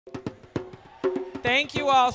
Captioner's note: cheering